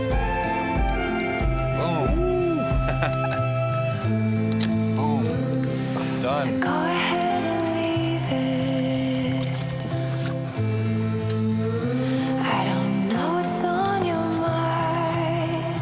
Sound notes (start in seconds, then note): 2.8 whooping; 6.0 upbeat music